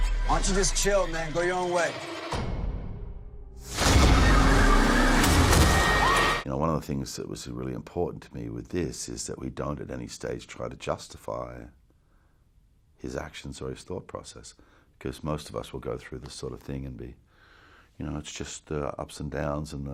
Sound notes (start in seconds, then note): 0.0 eerie music; 3.6 explosion; 3.8 eerie music; 6.3 screams